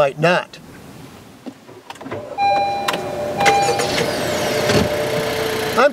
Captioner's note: start up sounds